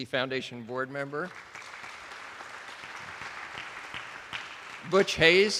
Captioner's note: attendees applauding